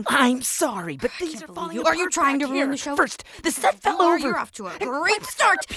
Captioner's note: arguing